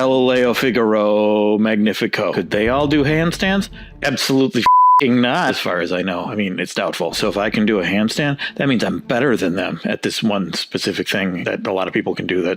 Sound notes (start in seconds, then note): 4.6 beep